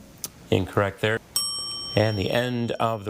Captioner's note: buzzer chiming; text buzzing; bell dinging